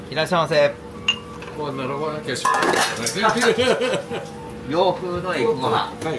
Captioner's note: laugh